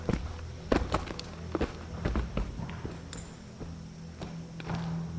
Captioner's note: footsteps thudding